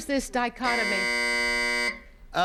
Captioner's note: buzzer buzzes